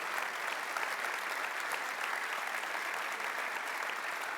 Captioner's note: applause